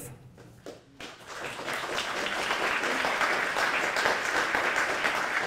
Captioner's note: applause